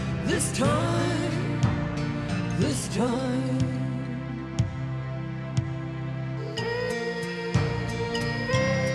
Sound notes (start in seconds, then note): 6.6 children humming